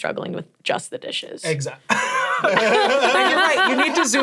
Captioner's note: laughs